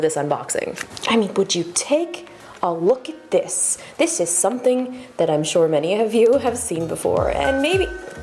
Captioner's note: ~ding~